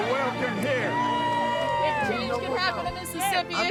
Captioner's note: crowd cheering